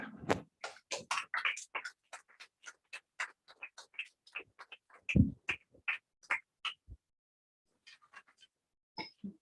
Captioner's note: applause